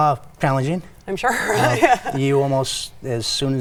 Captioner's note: laughing